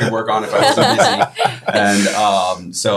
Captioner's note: all laughing